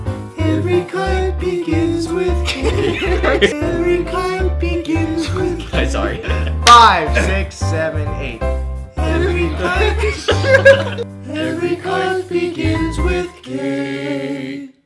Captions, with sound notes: (singing) Every kite begins with K! - (singing) Every kite begins with K! - Okay, sorry. Five, six, seven, eight: - (singing) Every kite-- - (laughter) (singing) Every kite begins with K!